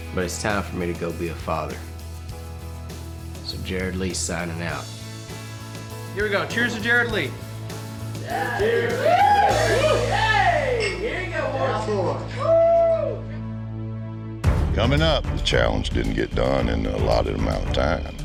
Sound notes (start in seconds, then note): 8.2 everyone cheering